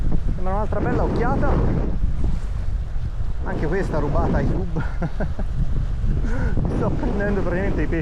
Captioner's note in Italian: risate